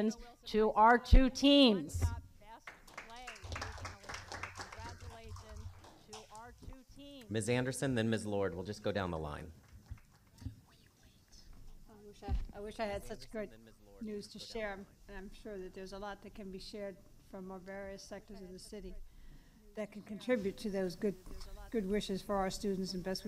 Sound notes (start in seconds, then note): 6.3 applause